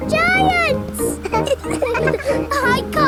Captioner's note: all laughing